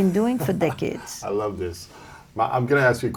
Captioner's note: chuckles